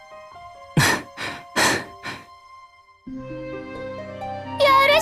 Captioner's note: out of breath